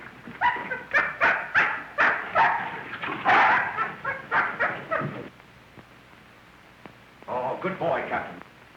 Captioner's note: barking